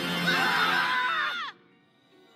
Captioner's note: all screaming